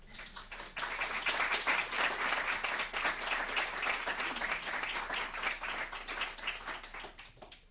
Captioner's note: clapping